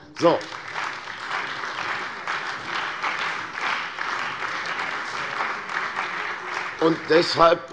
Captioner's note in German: Beifall bei der CDU und dem BÜNDNIS 90/DIE GRÜNEN